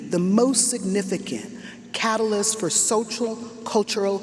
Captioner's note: none